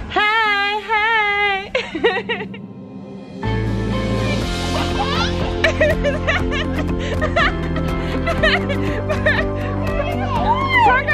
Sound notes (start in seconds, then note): 1.6 laughs; 3.3 pop music; 4.7 laughs